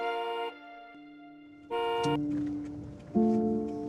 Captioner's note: horn honking